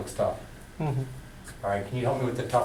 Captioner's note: voiceover